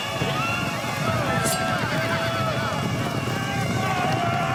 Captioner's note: all yelling